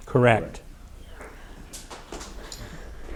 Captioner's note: audience applauding